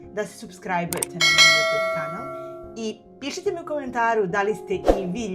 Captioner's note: bells